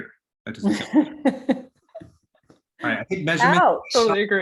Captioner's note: laughs